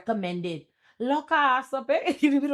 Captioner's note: speaking in foreign language